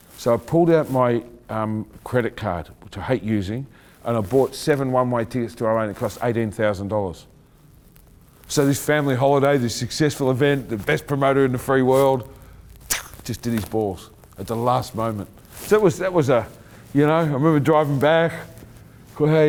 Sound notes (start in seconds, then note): 12.7 exclaiming